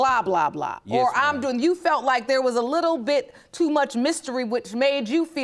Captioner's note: none